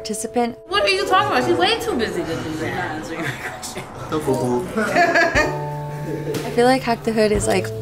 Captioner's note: talking and laughter